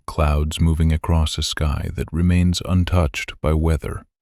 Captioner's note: soft voice